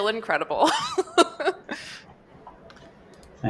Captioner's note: laughs